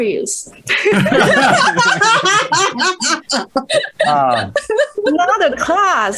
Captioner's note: risas